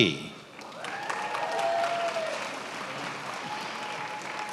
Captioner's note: attendees applauding